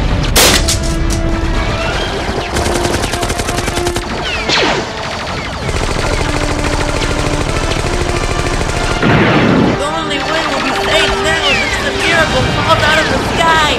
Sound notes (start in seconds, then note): 0.3 gunfire; 0.3 pistol shot; 2.5 rapid gunfire; 4.1 gunfire; 5.6 rapid gunfire; 8.9 cannon shot